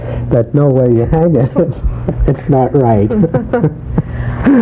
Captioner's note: laughs